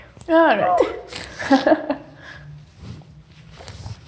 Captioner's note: laughs